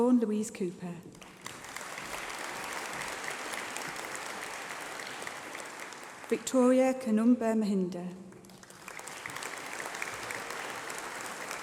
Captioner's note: applause